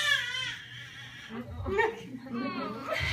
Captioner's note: baby makes noise